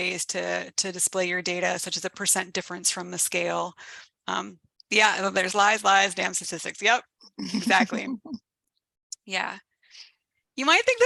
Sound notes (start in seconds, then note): 7.4 laughs